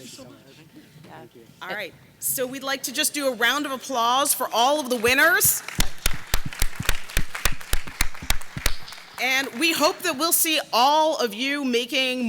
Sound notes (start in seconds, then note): 4.8 audience applauding